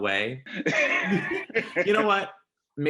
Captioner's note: both laughing